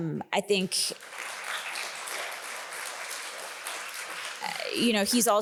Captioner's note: audience applauding